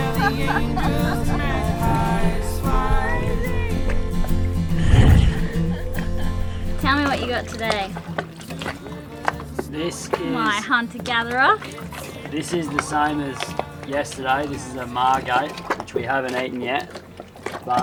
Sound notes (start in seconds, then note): 0.0 laughing; 4.8 laughing